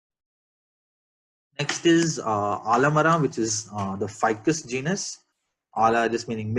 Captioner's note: in kannada